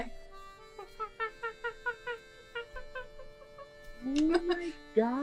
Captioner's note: monkey noises